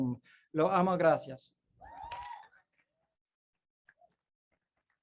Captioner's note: speaks in foreign language